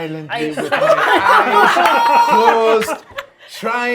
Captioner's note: laughing